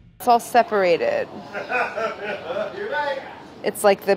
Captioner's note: laughing